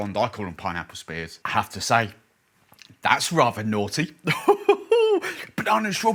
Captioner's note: chuckles loudly